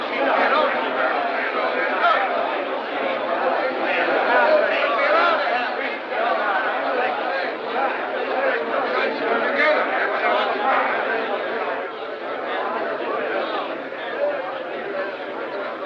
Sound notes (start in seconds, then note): 8.8 spectators Grumbling